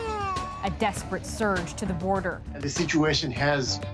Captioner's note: crying